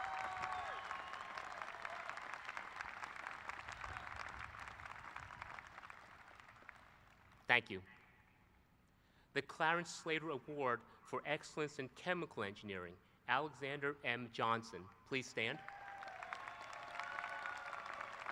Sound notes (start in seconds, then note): 2.0 applause; 15.4 applause